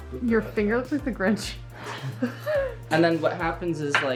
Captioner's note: chuckles